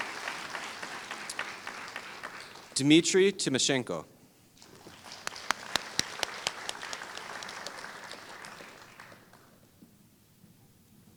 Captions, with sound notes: Dmitrii Timoshenko [Applause]